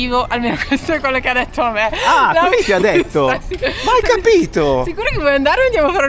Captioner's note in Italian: risate